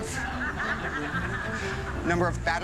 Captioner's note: laughter